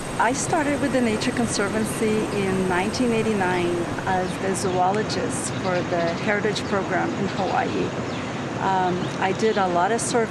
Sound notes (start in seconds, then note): 0.0 crickets chirping; 7.9 birds chirping